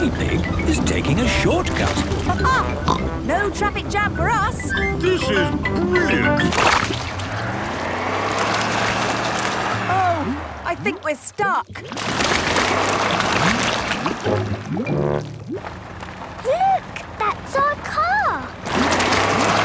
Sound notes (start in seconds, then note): 7.1 sloshing, tires whirring; 12.3 whirring